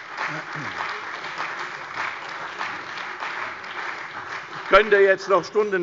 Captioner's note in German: Beifall bei der CDU und dem BÜNDNIS 90/DIE GRÜNEN